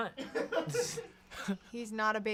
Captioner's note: laughs